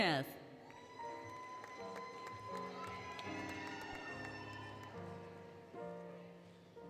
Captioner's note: applause, Cheering, Music